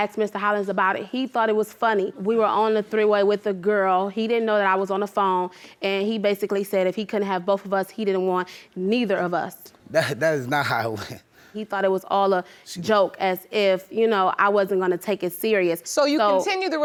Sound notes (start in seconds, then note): 9.9 laughs